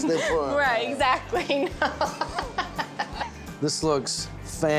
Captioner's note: giggling, laughing